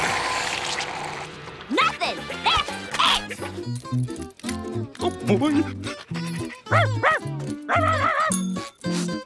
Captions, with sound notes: Nothin. That's it! Oh, boy. [barking]